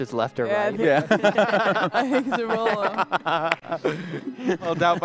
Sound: laughter

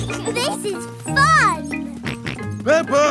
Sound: both laughing; george snorts

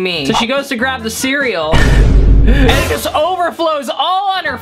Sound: laughs

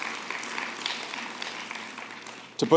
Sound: applause

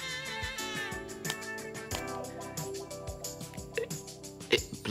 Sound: flicking

